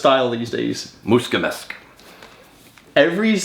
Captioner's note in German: spricht in einer Fremdsprache